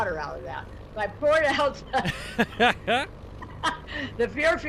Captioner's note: laughs